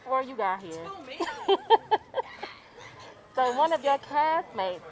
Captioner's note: laughs